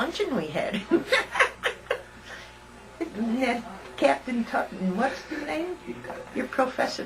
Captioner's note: laughter